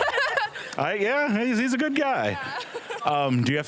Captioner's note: laughing; laughing